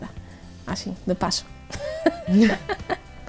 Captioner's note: laughs